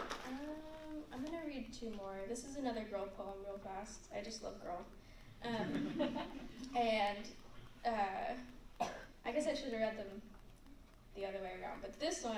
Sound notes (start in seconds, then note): 0.0 applause; 5.5 laughter